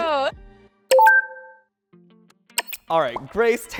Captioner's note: electronic clicking